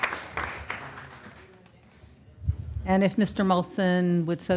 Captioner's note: applause